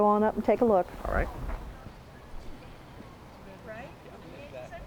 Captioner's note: chatter